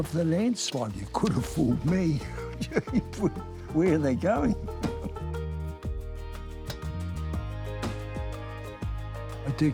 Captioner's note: laughs; bright music